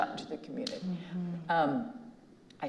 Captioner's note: claps hands